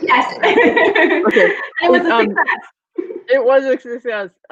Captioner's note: laughs